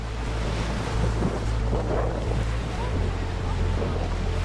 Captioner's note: waves crashing